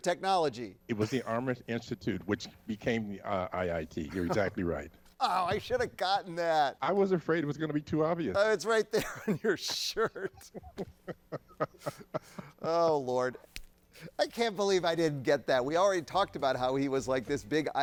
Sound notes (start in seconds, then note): 8.9 laughing; 8.9 chuckles